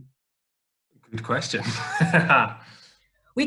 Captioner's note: laughs